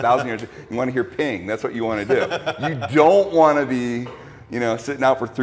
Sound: laughs

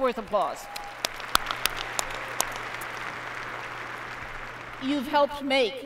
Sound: applause

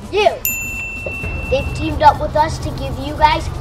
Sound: bell dings

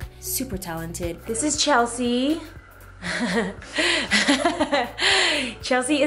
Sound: laughter

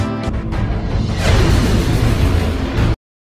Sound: vwoosh

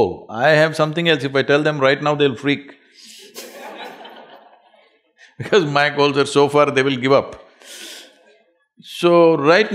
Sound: laughter

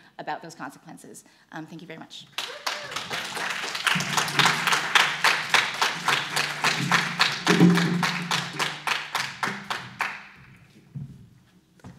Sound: applause

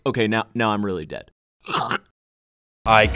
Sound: death gurgle

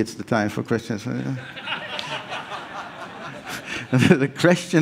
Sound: laughs

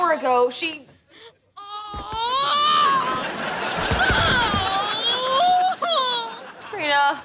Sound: moaning

